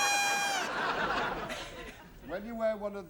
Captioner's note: laughter